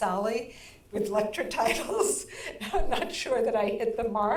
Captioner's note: chuckles